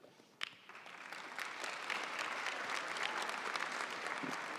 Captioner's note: audience applauding